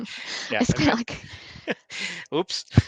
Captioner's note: chuckling